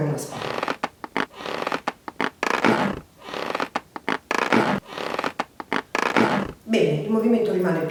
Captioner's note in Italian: cigolio sinistro